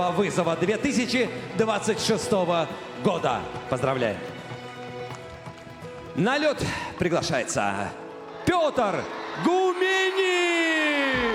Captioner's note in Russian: ликование